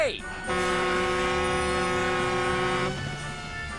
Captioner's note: flynn honks his horn